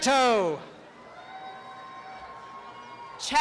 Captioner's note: applause and cheering